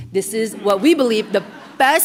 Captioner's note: laughter